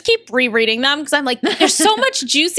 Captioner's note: laughter